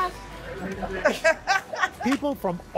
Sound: laughter

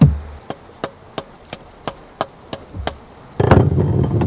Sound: tapping sounds

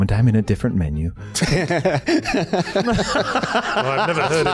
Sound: laughs

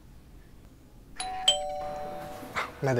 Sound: doorbell rings

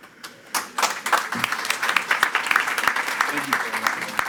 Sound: attendees laughing; attendees clapping

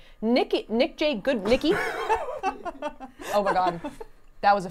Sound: laughs

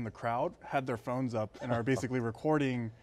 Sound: laughs

